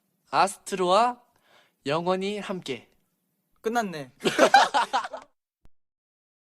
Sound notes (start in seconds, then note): 4.2 hysterical laughter again XD